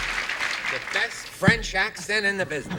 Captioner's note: applause